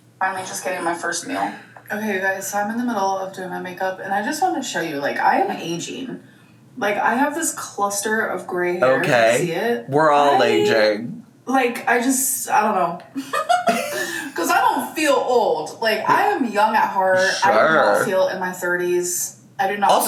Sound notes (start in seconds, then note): 13.2 laughing